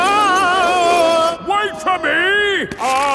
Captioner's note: yelling